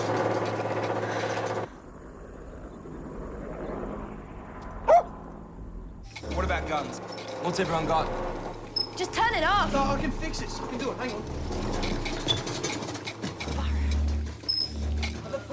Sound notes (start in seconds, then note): 0.3 sighs; 4.8 barks; 9.3 pipes continue rattling